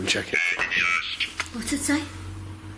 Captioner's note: ghost box speaks